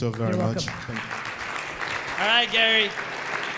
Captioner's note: audience applauds